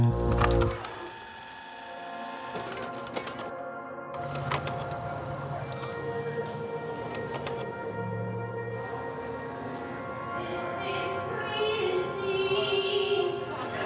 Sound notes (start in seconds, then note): 0.0 tape fast forwarding rapidly; 3.0 gentle droning music; 4.2 countdown ticking rapidly; 6.2 gentle droning music continues